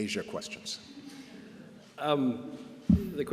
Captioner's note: laughter